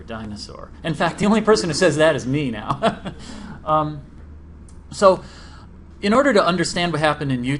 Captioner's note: laughs